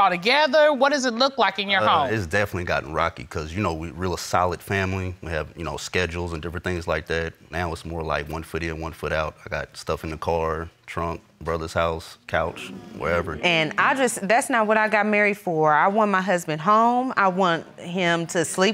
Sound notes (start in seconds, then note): none